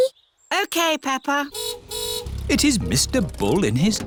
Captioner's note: car horn honks